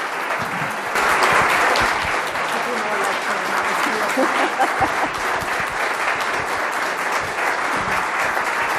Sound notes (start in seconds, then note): 3.0 laughs; 3.0 murmuring